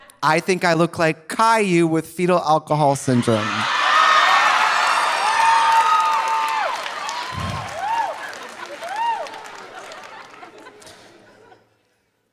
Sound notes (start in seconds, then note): 3.2 audience cheering; 3.8 audience applauding